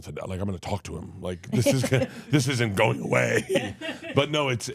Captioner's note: laughing